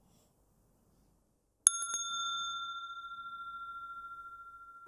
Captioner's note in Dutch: rinkelt bel